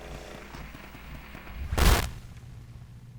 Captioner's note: static